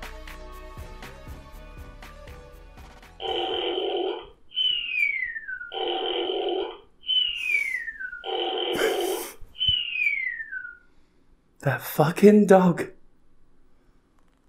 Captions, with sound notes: [Snoring sounds from the fart burp dog, off screen] The fuckin' dog.